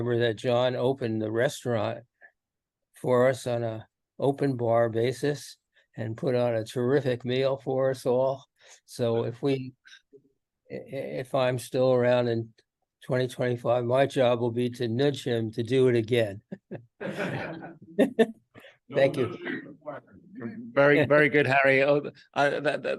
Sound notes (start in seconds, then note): 17.0 everyone laughs